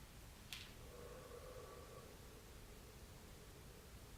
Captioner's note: exhales